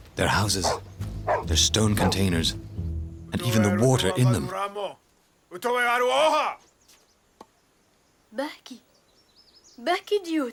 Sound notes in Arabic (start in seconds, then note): 5.6 الصوت المنطوق البدوي